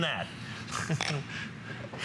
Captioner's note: laughter